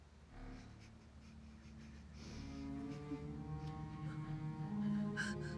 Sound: whimpering

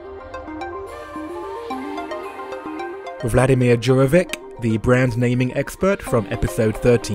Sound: voiceover

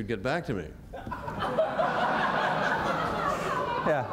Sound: laughter

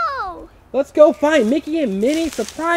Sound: voiceover

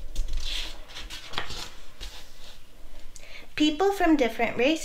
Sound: page flips

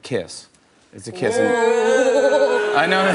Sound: groaning

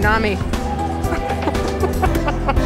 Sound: laughter

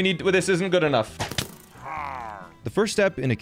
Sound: crossbow firing; pillager hrrngh-ing

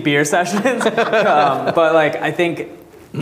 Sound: audience laughing

